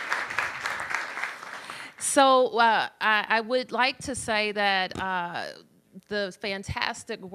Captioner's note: applause